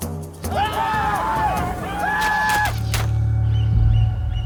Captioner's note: warriors shouting; Potts shouting